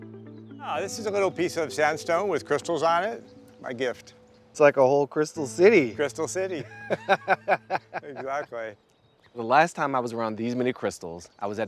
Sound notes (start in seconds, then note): 6.6 Baratunde laughs